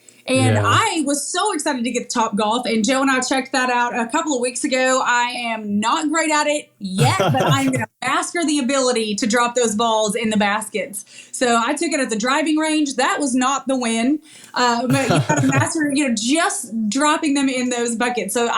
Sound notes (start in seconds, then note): 14.6 laugh